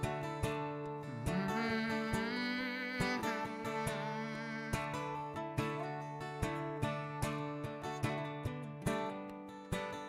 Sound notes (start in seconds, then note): 1.4 hums with guitar